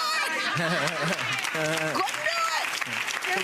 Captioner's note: audience applauds